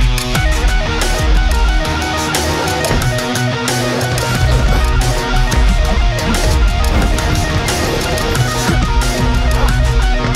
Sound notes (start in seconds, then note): 2.5 thudding